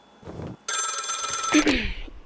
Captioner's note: telephone ringing